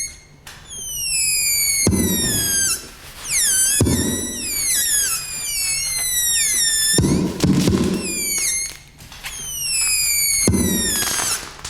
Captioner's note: bubble wrap being scrunched- creating popping noises